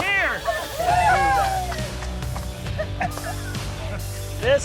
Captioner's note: cheering